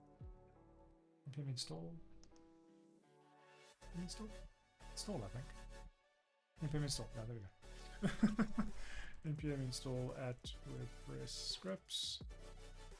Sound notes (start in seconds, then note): 8.0 laughs